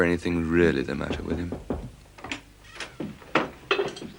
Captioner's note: knocking on door